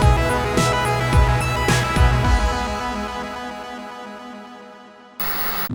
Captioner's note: game audio